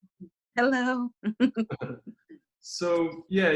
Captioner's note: laughs